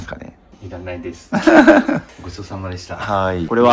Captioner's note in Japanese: 笑い